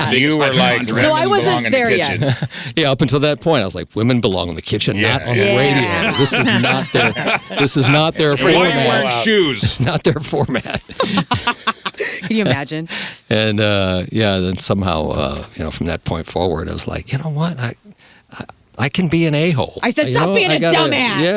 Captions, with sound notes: You were like-- No, I wasn't there yet. Yeah, up until that point I was like, women belong in the kitchen, not on the radio. This is not their-- This is not their-- It's a point where shoes. Not their format. (laughing) Can you imagine? And yeah, then somehow, you know, from that point forward, I was like, you know what, I can be an a-hole. I said stop being a dumbass.